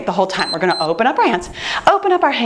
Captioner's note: timer beeps